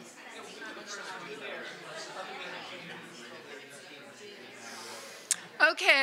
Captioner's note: crowd chatter